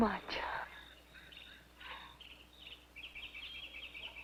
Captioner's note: birds chirping